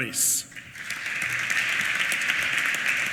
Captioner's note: applause